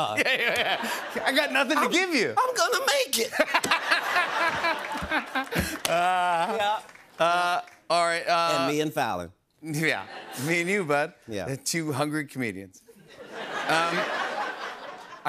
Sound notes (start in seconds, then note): 3.3 laughter; 13.0 laughter